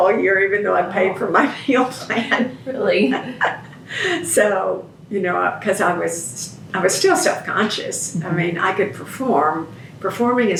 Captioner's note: laughs